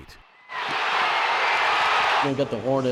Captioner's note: crowd cheering